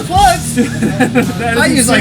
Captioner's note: laughing